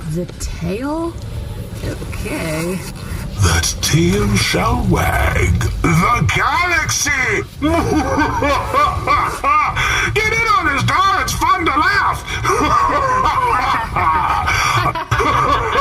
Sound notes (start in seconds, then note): 7.2 evil laughter